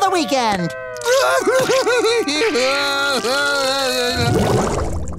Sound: crying

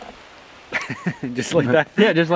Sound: laughing

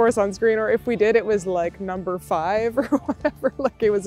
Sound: laughs

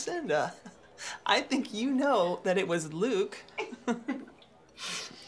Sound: laughs; laughs

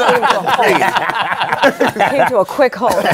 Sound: laughter

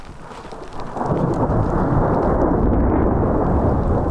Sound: thunder

